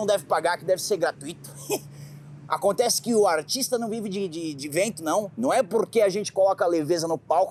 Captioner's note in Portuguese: risada